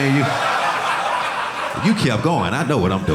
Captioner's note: audience laughing